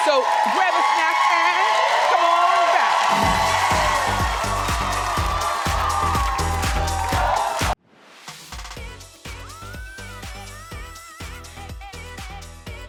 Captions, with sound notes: So grab a snack and come on back. (fun exciting music) (audience cheering) (soft lighthearted music)